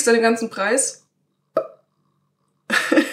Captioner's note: plop